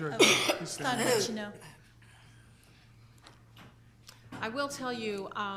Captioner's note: coughing drowns out speaker